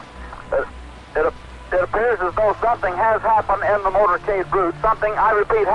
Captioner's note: original radio sound